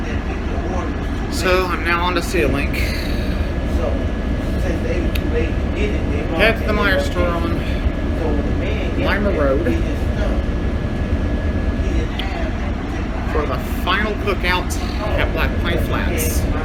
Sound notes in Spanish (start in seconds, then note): 3.0 Charla indistinta